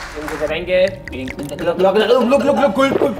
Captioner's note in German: Ekelgeräusche